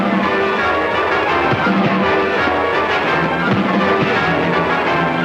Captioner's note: intense music; fists pounding